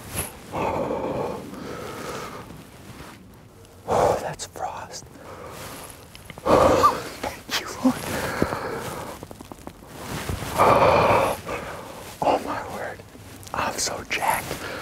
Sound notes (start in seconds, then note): 4.6 whispering